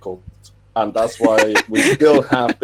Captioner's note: laughing